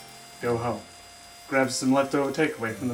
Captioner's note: none